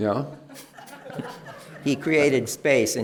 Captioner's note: laughter